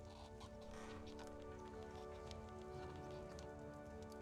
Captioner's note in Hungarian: horkantás